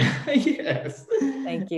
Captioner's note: laughs